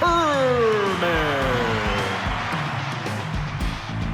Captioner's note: cheers